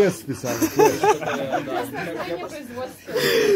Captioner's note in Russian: смех